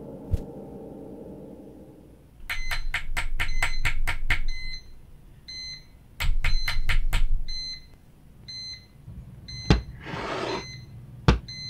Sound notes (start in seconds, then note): 3.3 alarm beeping, persistent knocking; 9.5 scratching from under the bed, beeping continues